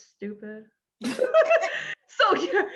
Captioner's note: laughing